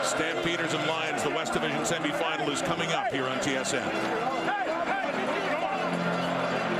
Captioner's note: crowd Noise